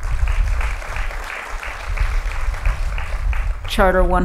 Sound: applause

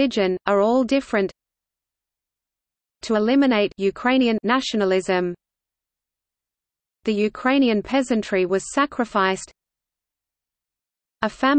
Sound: Ukrainian

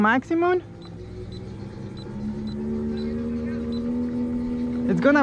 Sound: engine revving

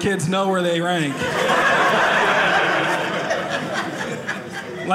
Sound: audience laughing

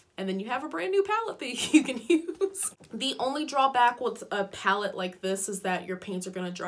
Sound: giggles

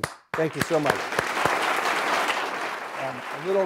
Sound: applause

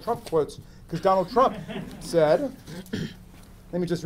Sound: audience laughing

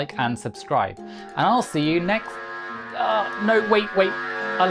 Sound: alarm Blares

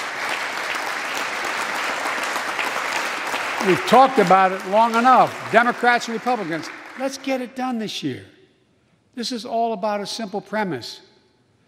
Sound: applause

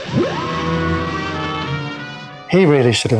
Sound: whirring sound; dramatic music

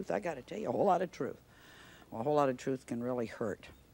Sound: none

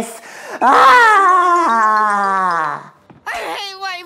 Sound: yelling in high-pitched voice

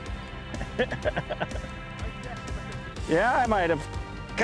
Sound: laughter

